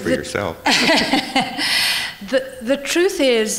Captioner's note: laughter